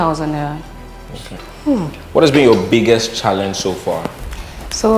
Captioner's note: sighs